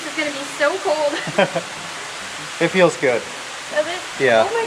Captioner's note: laughs